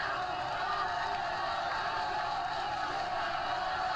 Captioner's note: crowd clamoring